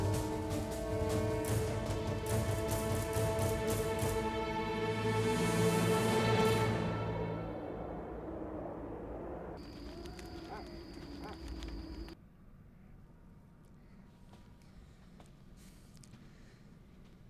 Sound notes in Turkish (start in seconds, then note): 7.5 Rüzgâr sesi; 9.4 Ateş çıtırtısı sesleri